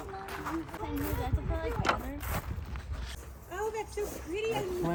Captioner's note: family conversing in background